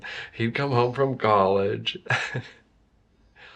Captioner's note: laughs